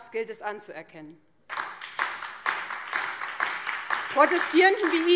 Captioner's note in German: Beifall BÜNDNIS 90/DIE GRÜNEN und DIE LINKE